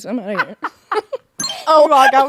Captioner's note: both laughing